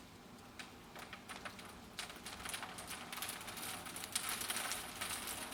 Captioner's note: rain splattering